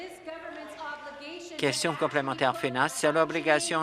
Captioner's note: applause